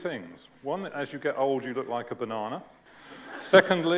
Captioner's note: laughter